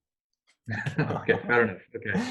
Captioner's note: both laugh